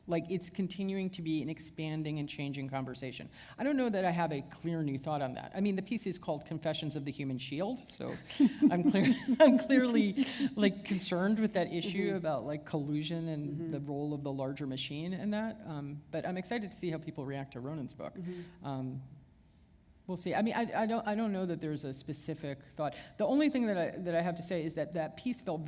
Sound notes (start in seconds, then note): 8.1 chuckle